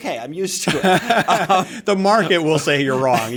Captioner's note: laughter